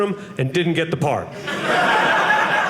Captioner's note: audience laughing